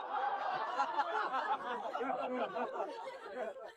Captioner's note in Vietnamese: tiếng cười